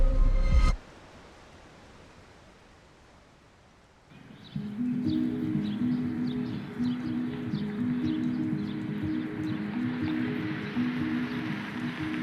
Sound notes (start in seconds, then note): 4.1 birds chirping; 4.1 light mellow music